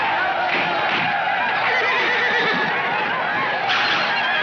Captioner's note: horse neighs